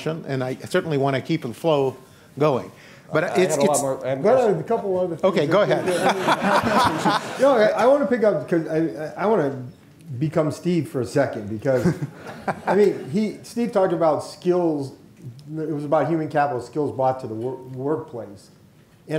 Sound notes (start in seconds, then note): 5.6 laughter